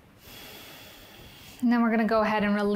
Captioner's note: inhales; exhales